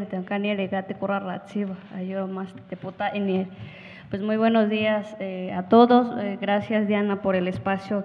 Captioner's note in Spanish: habla en wixárika